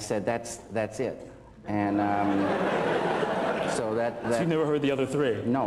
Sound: laughter

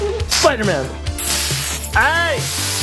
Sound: spurt of spray; spray hisses

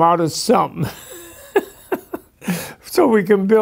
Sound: laughing

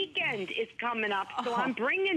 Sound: laughter

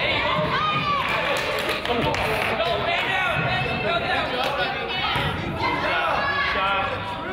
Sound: crowd chatters; crowd applauds

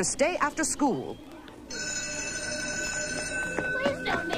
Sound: ring

